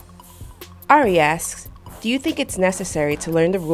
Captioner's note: voiceover